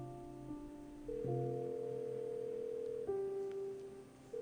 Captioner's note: phone ringing